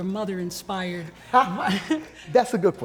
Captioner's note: laughs